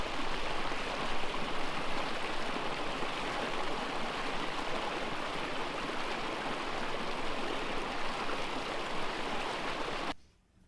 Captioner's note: rushing water